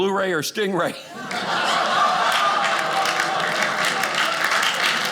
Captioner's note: audience laughing